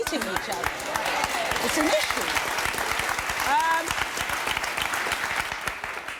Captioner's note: applause